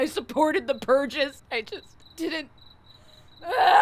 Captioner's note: Emily yells; cries